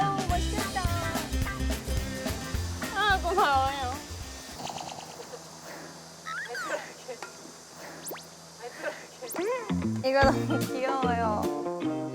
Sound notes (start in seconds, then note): 6.2 laughs